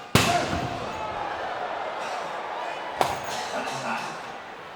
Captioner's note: crowd cheering